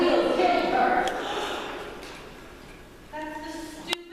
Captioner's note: suspects gasp